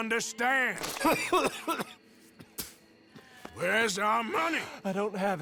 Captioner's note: Downes coughs and accidentally spits in his face